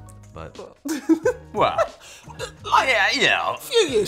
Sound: laughter

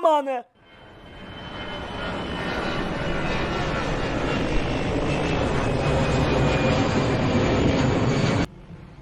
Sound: airplane sound

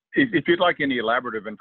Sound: on phone

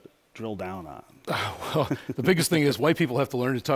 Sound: laughter

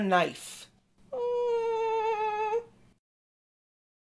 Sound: whimpers

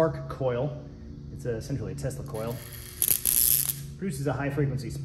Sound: zapping noise

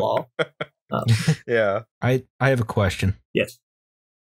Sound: laughter

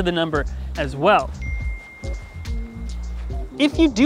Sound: SMS notification ding

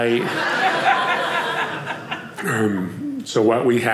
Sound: audience laughing

